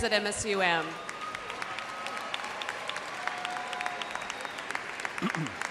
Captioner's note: audience cheers and applauds